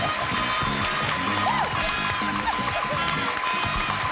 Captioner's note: laughs